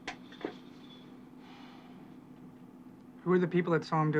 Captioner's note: sighs